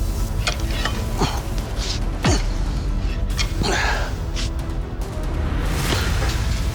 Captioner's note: grunting